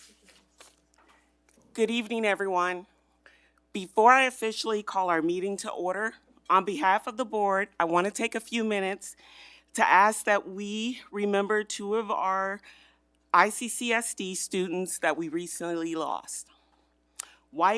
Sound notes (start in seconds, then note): none